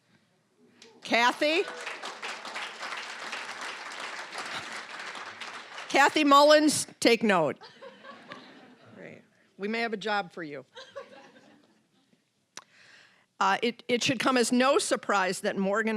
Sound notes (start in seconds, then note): 2.6 applause; 10.8 laughing